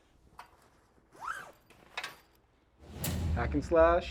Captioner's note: zipper whizzes; dramatic music thumps